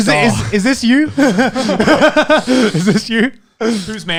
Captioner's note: laughs